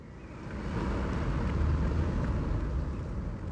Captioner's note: another car drives